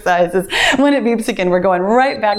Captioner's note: timer beeps